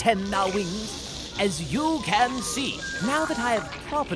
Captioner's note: Kakkay hissing